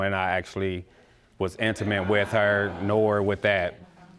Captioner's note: audience gasps